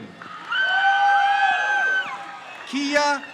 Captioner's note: crowd cheers